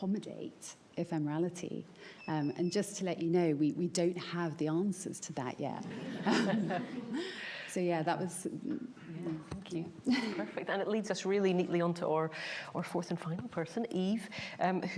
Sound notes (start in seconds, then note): 5.9 laughs